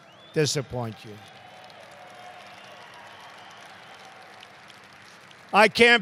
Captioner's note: applause